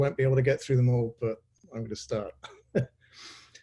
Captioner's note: chuckles